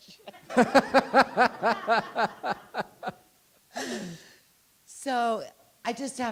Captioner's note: audience and presenters laughing